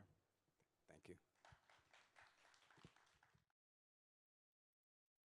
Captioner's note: applause